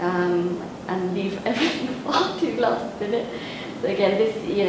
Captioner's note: laughs